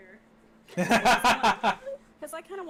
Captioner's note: laughs